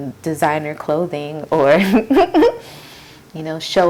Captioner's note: laughs